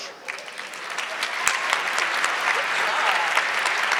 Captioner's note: audience clapping